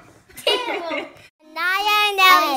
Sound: laughs

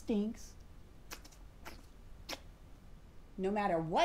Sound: cud chewing

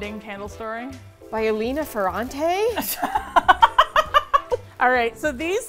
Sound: laughs

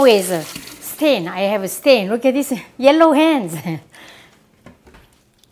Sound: laughs

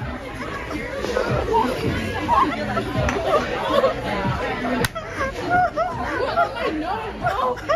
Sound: laughing

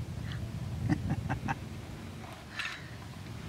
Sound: laughs

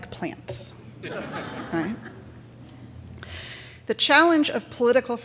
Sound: crowd laughing

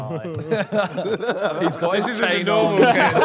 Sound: laughter

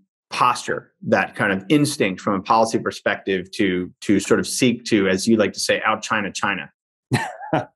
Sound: chuckles

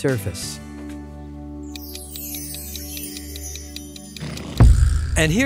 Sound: clock ticking

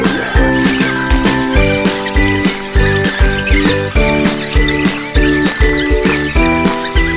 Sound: gossiping

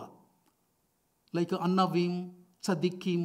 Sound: speaking in foreign language

